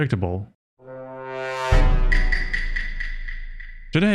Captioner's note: ominous sound